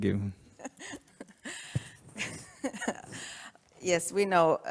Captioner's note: laughter